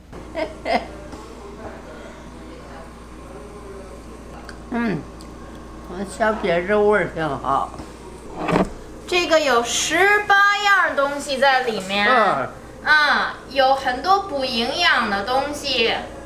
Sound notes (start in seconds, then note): 0.3 grandma laughing; 6.0 grandma speaking Chinese; 8.2 jar scrapes; 9.2 speaking Chinese